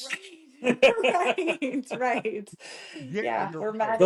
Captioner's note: laughing